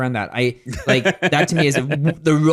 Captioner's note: laughs